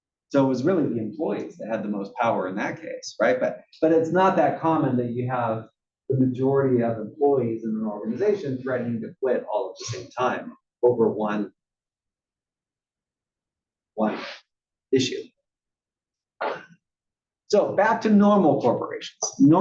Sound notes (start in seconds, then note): 16.4 cough